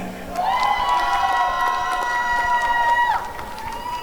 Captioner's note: applause and cheering